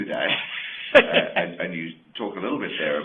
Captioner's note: laughs